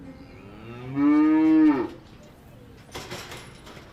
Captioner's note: cow mooing